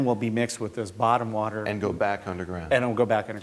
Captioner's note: voiceover